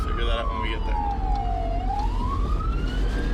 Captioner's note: sirens